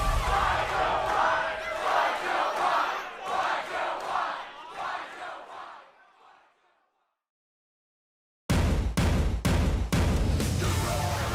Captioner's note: fans chanting